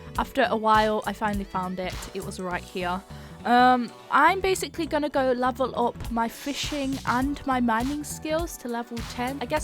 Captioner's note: none